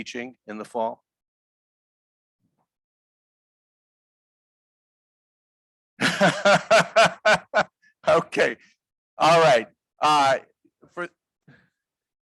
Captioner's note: laughter